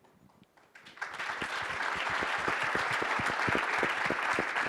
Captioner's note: audience applauding